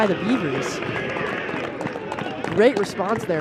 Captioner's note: cheering